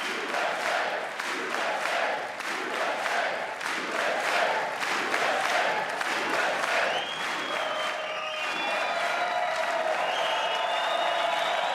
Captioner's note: cheers and applause; chanting usa